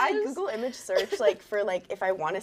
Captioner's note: laughing